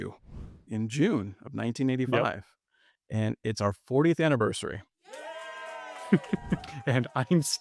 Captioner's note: cheers